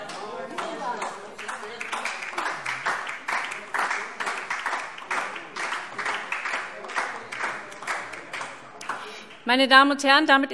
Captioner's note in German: Beifall DIE LINKE und vereinzelt SPD